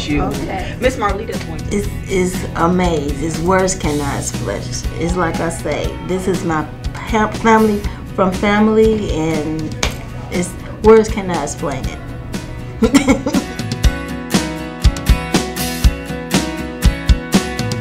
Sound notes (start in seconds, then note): 12.8 laughing; 14.1 upbeat orchestral music